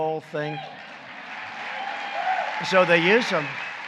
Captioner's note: applause